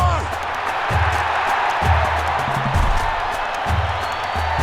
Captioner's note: crowd cheering